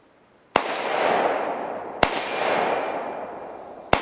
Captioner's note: gun fires